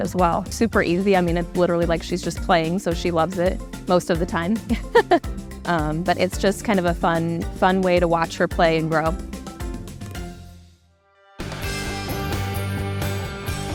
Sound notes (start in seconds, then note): 4.7 chuckles; 11.4 upbeat festive music